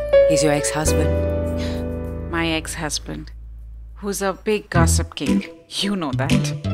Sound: gasps

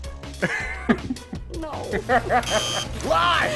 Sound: laughs

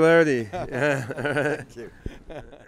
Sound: laughs

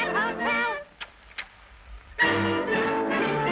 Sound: kissing

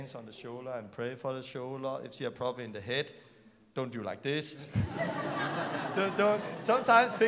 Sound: laughter

